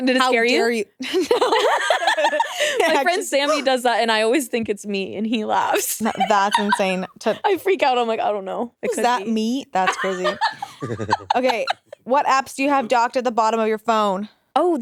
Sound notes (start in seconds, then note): 9.8 both laughing